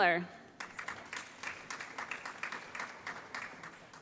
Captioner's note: applause